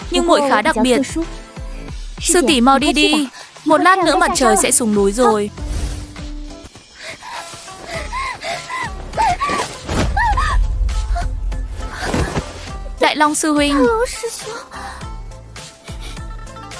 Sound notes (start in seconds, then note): 10.1 la hét